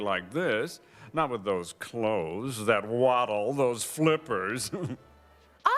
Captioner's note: laughs